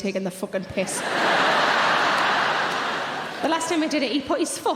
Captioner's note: audience laughing